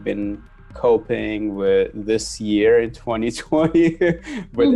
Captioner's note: chuckles